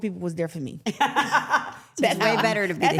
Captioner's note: everyone laughs